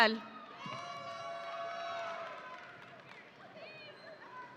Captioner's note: audience cheering